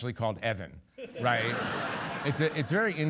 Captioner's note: audience laughing